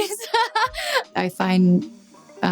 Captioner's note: Dove laughing